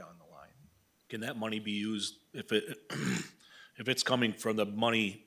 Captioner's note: clears throat